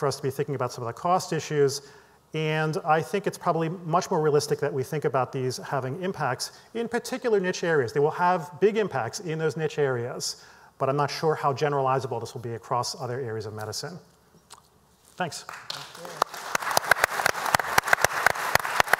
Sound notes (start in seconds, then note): 15.4 applause